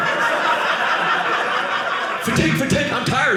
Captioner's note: audience laughing